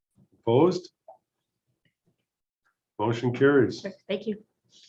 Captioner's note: silence